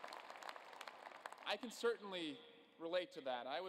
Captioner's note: applause